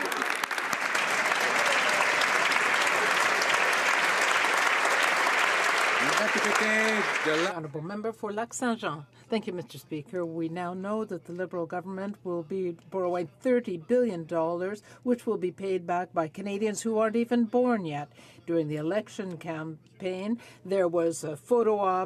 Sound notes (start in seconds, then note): 4.7 some Applause